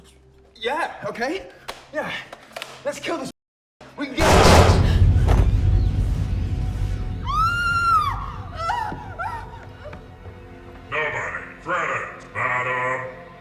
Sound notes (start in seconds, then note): 4.2 gun firing; 5.9 birds chirping; 7.3 Mia screaming